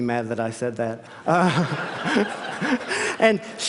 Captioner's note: laughter